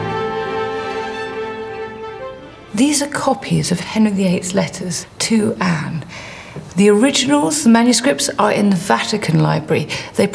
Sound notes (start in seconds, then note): none